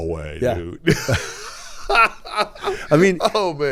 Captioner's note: laughing